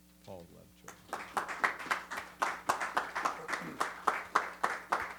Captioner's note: applause